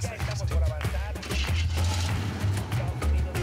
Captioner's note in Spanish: sonido del motor